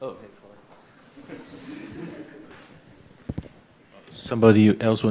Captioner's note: laughter